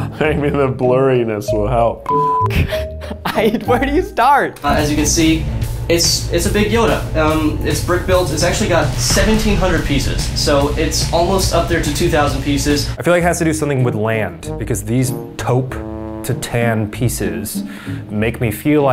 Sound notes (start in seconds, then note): 2.0 beeping